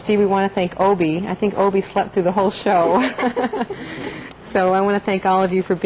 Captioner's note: laughter